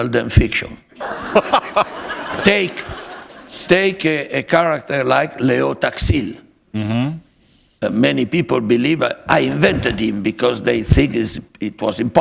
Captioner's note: laughter